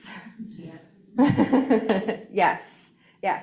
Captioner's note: laughing